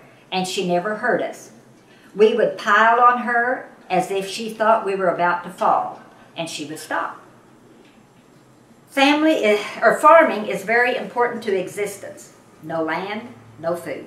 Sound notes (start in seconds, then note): none